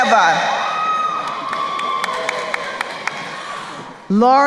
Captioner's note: crowd cheering and applauding